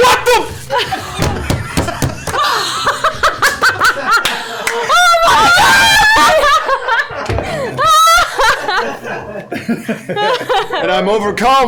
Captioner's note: laughter